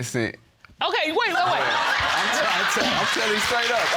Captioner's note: audience laughing